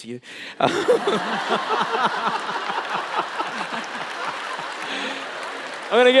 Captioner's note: laughter